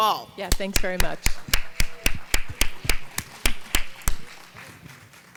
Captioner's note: audience applauding